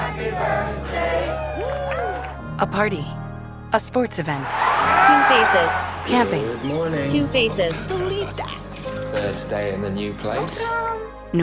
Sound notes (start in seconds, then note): 4.4 cheers